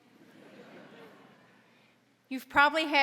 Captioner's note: audience laughing